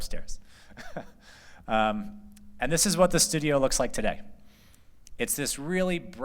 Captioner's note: laughter